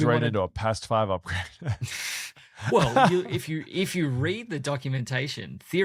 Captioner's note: laughs